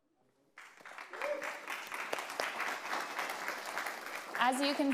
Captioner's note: audience applauding